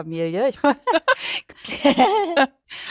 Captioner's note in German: Lachen